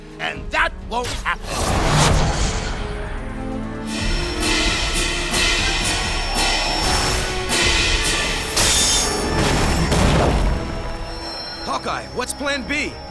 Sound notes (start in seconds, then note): 4.0 clanging